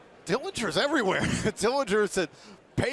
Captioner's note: laughs